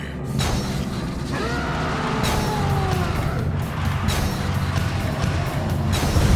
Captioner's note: heavy breathing; roaring; dramatic music